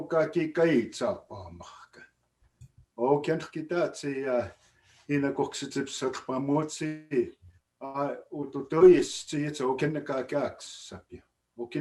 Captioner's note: speaking Blackfoot